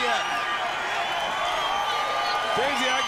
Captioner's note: crowd cheering